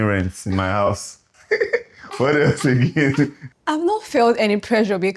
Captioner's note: laughs